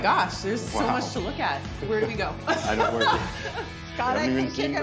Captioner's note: laughs